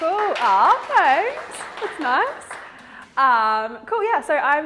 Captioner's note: audience claps